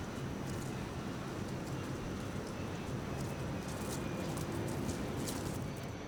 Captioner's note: plane engine roaring